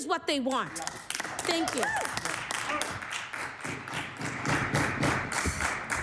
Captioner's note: applause